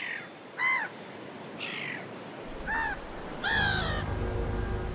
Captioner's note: gull screeching; ominous music